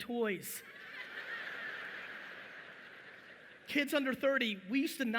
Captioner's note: audience laughing